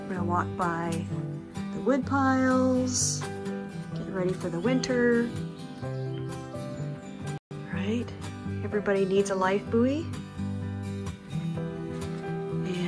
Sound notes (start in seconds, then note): 6.7 sparrows chirping